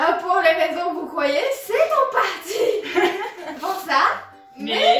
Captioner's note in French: rires